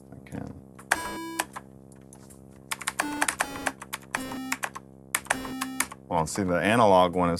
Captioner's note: beeping notes